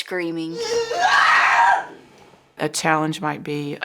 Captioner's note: screaming